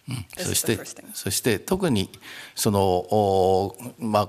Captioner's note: speaking japanese